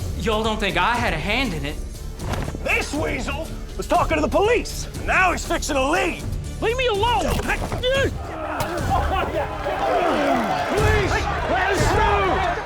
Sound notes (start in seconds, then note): 8.2 crowd laughing, cheering